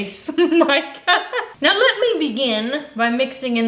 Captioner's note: laughs